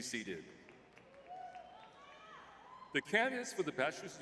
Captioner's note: audience cheering